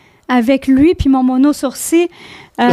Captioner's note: in french